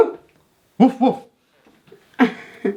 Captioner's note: imitating dog barking; laughing